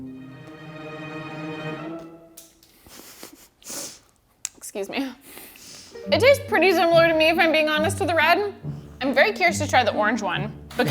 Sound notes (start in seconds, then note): 0.2 tense music; 2.2 Taki clatters; 2.8 chuckles